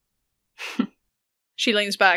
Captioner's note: laughs quietly